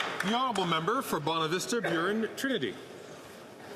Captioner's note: some Applause